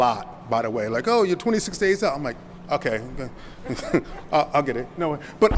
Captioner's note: chuckles